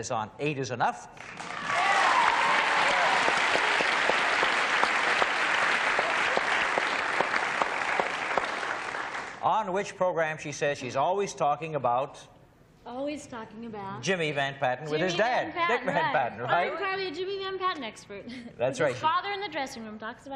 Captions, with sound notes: him is on "Eight Is Enough." [applause] - On which program, she says she's always talking about-- - Always talking about-- - --Jimmy Van Patten with his dad, Dick Van Patten. - I'm probably a Jimmy Van Patten expert. - That's right. - His father in the dressing room